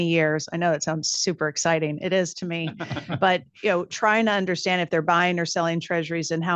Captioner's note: laughter